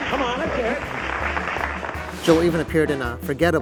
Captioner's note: audience clapping